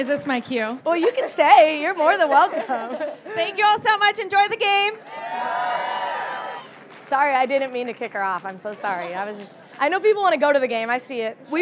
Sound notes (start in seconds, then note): 5.0 audience cheering